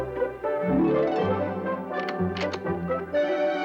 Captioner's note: unlocks door